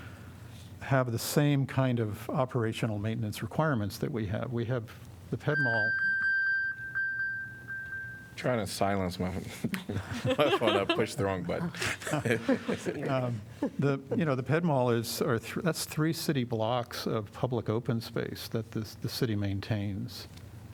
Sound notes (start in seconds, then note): 9.7 laughter